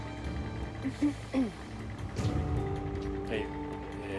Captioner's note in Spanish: sara carraspea